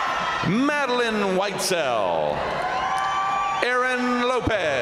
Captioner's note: crowd cheering